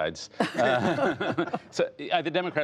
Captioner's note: laughter